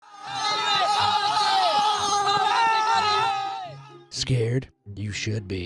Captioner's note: soldiers shouting